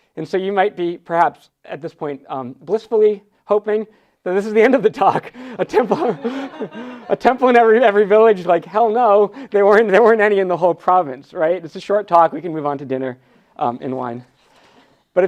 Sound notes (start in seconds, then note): 5.5 laughs; 5.6 audience laughs